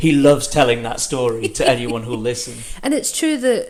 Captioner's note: laughs